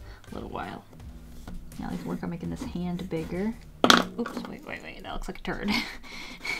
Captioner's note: drops pencil